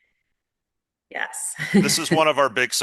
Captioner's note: chuckles